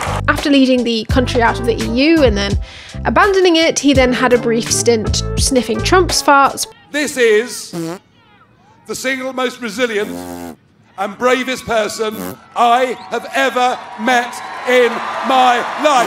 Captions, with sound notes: After leading the country out of the EU and then abandoning it, he then had a brief stint sniffing Trumps farts... This is - [fart] - the single most resilient - [fart] - and bravest person - [fart] - I have ever met in my life